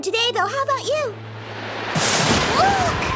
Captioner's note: lightning striking and wind howling; exclaims